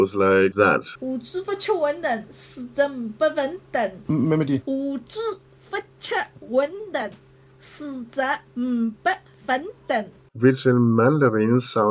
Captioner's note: speaks in Wuxi City Dialect